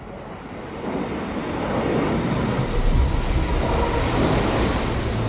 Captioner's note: plane engine roaring